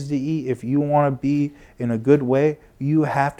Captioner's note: none